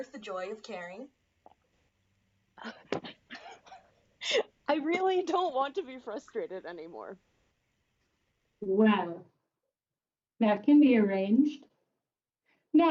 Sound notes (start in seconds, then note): 4.7 laughing